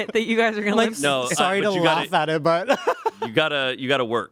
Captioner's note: laughs